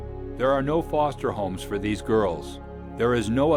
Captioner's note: voiceover